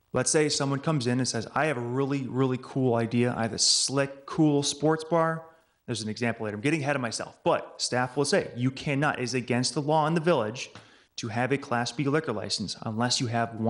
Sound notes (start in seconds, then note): none